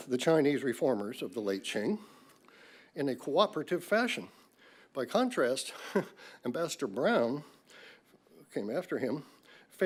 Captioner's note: laughs